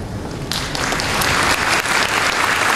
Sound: applause

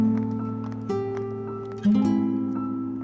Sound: footsteps

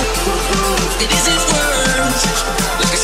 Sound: ooh, ooh

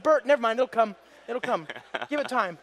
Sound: laughter

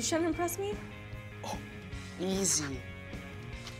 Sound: laughs

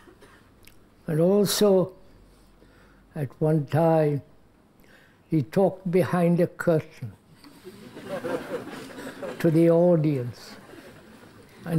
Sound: laughter

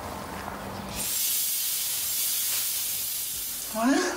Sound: magical shimmering

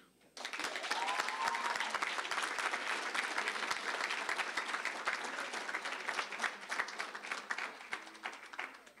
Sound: applause, cheering

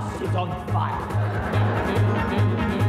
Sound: laughter

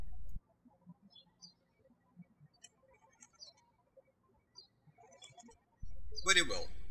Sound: birds chirping

